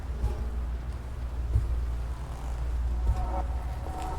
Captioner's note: heavy footsteps return